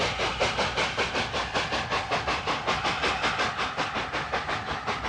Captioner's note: train passes